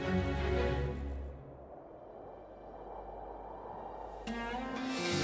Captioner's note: wind blowing